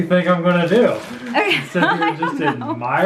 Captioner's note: laughs